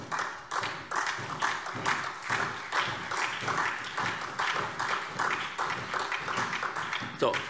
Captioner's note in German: Beifall SPD, BÜNDNIS 90/DIE GRÜNEN und DIE LINKE